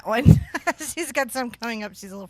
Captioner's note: laughs